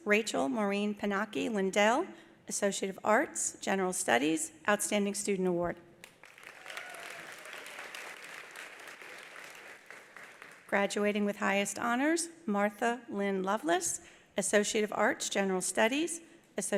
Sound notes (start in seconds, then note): 6.0 attendees applauding; 6.3 attendees cheering